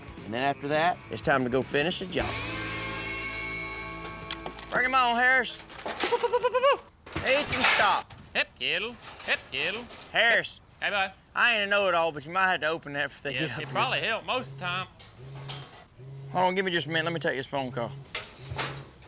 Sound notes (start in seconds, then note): 14.3 phone vibrating